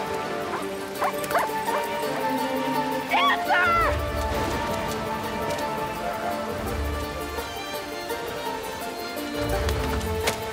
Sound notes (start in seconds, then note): 1.0 Dancer whimpering, barking